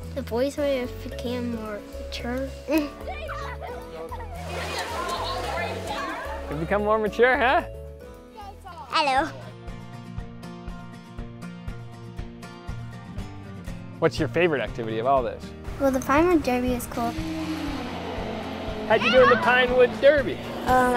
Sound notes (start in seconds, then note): 3.7 laughter